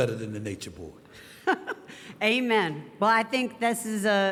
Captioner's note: Steph chuckling